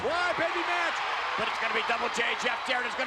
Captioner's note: spectators cheering